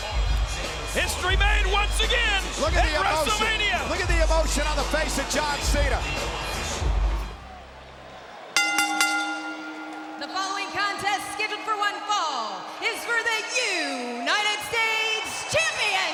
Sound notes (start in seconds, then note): 8.5 bell ringing